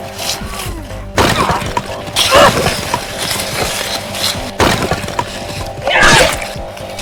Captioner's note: fighters grunting; weapons thudding